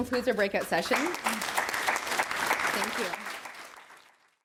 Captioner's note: applause